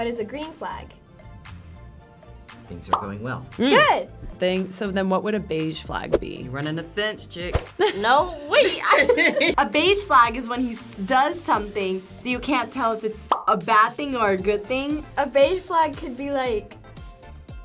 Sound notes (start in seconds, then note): 2.9 bubble pops; 8.6 chuckles; 13.3 bubble pops